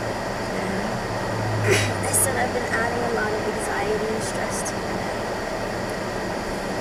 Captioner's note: coughs